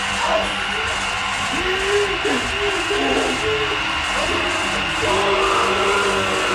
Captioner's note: eerie music continues; Billy groaning